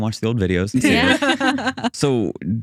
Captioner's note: laughing